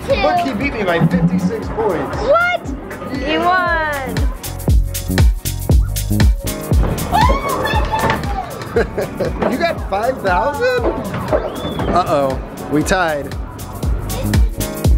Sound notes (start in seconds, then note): 4.1 bass thumping music; 7.1 excited screaming